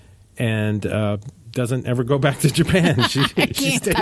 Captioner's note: laughing